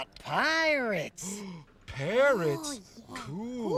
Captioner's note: gasps